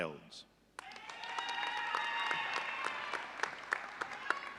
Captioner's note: audience cheering